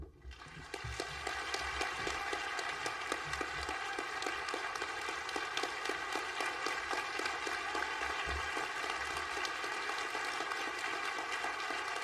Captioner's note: applause